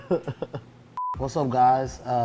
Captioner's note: laughs; cut screen beeps